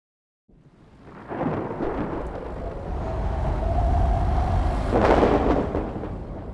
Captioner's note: wind and thunder